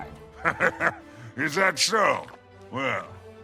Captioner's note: chuckle